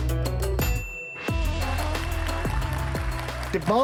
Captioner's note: audience applauding